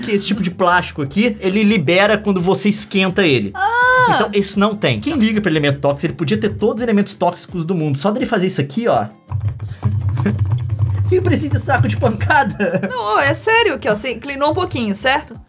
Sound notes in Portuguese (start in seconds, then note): 9.9 Poc